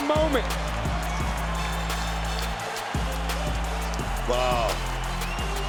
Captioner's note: crowd cheering; upbeat synth music; crowd cheering; upbeat synth music